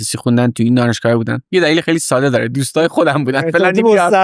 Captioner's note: laughs